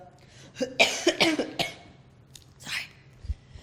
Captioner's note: coughs